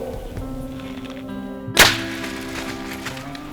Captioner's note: sound of bowshot